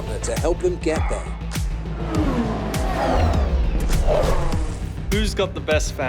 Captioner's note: car engine roaring